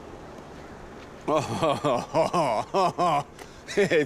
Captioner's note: laughing